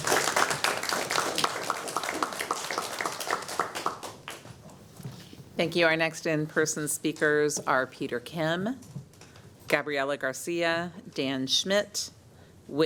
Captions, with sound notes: THANK YOU. (APPLAUSE). >> THANK YOU. OUR NEXT IN-PERSON SPEAKERS ARE